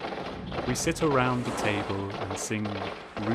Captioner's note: none